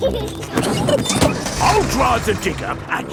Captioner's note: peppa and george laughing